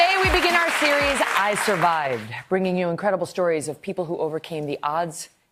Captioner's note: applause